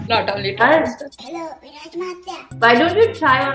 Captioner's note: in a kid voice